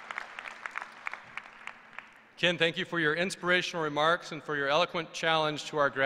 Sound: applause

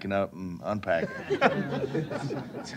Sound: laughter

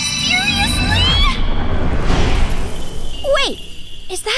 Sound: bop, sparkle

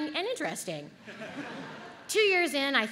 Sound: audience laughs

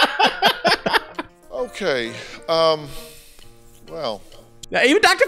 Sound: laughter; sad exhale

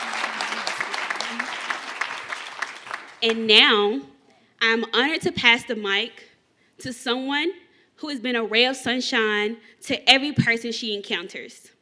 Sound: cheers and applause

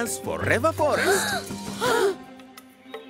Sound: children gasping

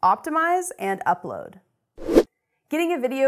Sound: air rushes

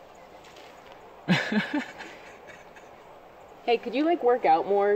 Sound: Bo laughing

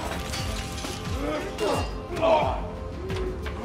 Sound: coinsoins clattertter; men gruntinnting

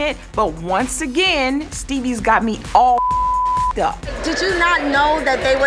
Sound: beep

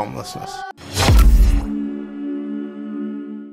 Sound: logo whooshes

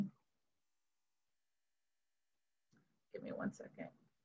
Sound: silence

